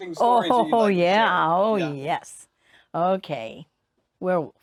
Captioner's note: laugh cheerfully